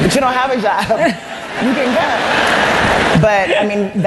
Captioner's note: laughter